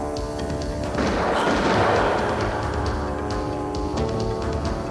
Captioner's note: gun firing